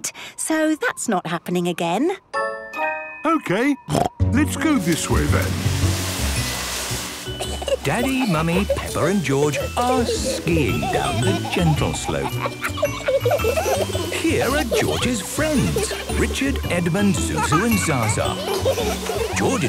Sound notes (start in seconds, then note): 3.5 snorting; 12.1 kids laughing